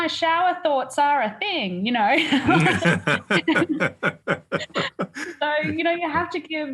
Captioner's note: laugh